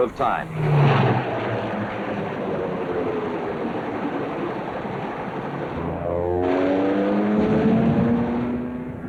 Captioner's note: aircraft engines and machine guns